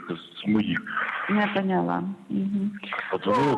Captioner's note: speaking Russian